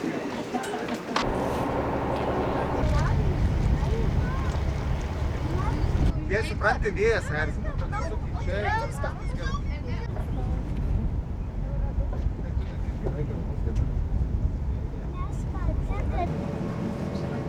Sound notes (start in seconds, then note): 1.5 wind